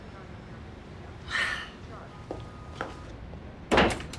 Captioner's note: sighs